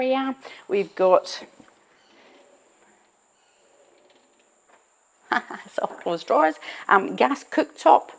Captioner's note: chuckles